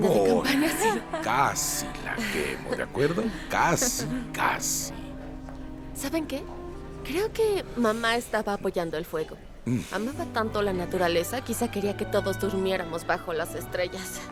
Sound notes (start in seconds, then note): 1.8 Faith resopla; 9.6 Víctor resopla